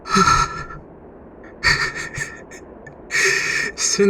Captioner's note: quietly laughs, relieved